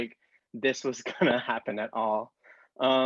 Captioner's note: chuckles